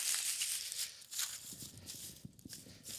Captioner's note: quiet rustling